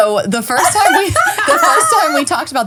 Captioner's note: laughing